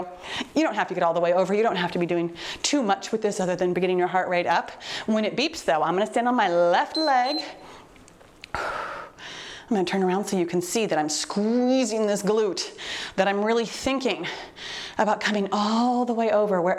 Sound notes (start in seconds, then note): 6.9 timer beeps